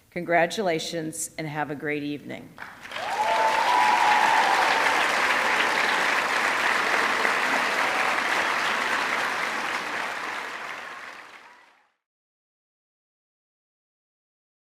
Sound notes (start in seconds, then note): 2.6 audience clapping; 2.7 audience cheering